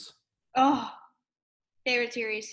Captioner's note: sighs